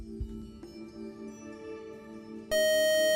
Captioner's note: buzzer